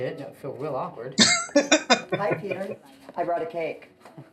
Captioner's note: laughing